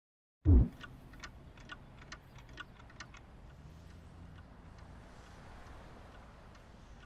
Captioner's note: dramatic music; soft thudding; cat statues ticking